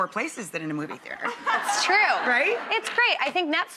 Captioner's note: crowd laughs